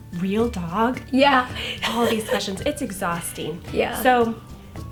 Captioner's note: laughs